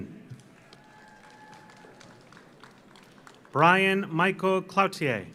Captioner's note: audience applauds; audience cheers